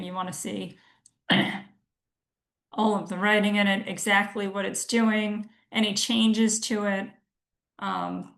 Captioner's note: clears throat